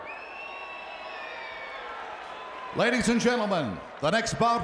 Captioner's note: crowd cheering